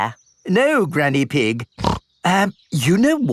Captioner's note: snorts